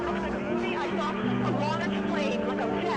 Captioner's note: reporter chattering